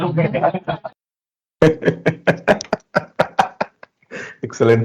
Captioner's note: laughs